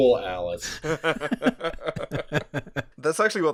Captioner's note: laughter